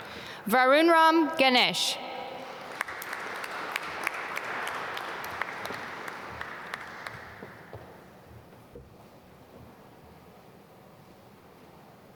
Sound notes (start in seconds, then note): 2.4 applause